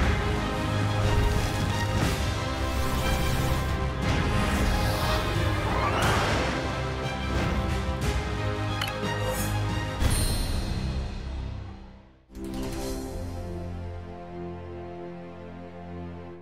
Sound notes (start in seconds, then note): none